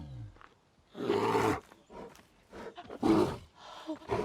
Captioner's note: bear grunts